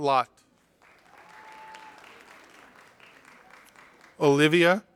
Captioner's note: audience applauding